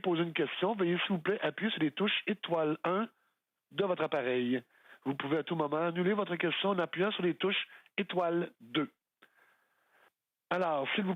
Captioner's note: speaking French